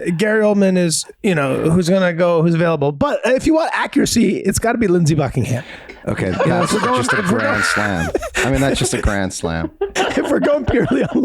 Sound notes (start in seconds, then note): 6.6 Glenn cackles; 10.3 all laugh